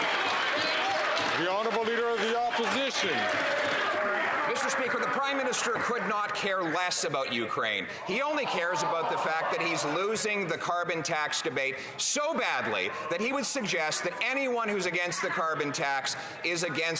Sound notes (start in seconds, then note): 0.0 some Applause; 3.0 some Applause